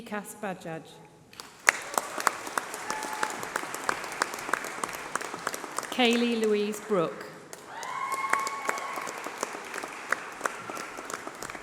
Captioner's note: applause